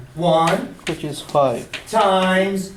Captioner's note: voiceover